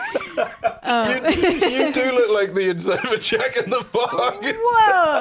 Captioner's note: laughing